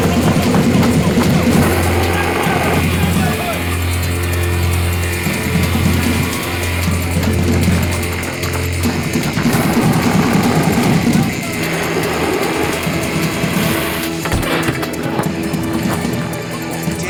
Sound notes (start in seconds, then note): 5.3 people yelling; 9.7 water whooshing; 14.9 door creaking